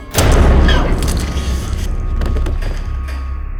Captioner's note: banging